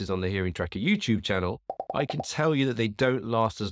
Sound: bubbles popping

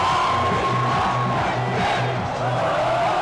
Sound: crowd

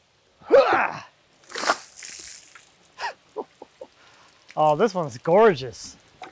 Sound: grunts; water splashes; laughs

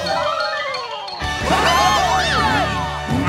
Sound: cheering; roaring

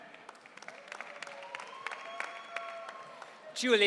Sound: audience cheering

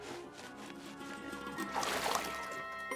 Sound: scratching; water sloshing

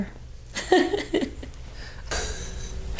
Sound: laughs

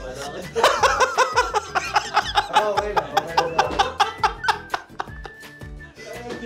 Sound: continues laughing

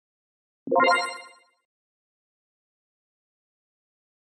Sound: game chimes

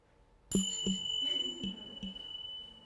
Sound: bells

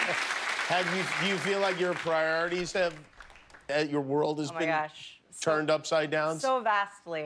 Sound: laughter

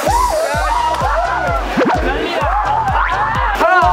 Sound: slipping & laughing

